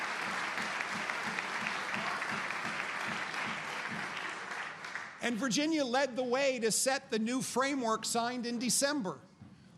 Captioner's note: applause